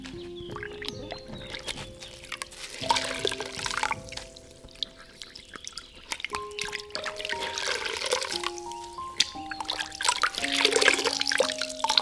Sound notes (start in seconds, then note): 2.0 water dribbles into bowl